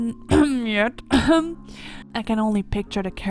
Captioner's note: cough